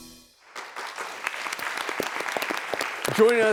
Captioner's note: clapping